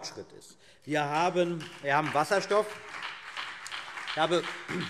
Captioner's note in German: Beifall BÜNDNIS 90/DIE GRÜNEN und vereinzelt CDU